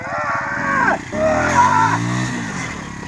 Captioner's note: grunting